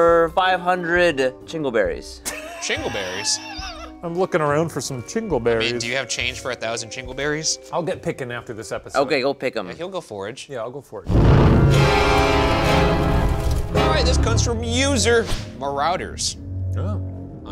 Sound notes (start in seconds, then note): 2.2 laughs; 11.1 dramatic music